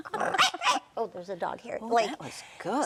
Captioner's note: growling; barking